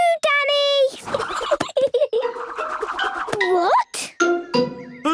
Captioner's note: giggling